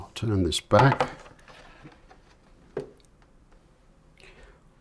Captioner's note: silence